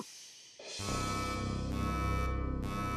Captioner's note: beeping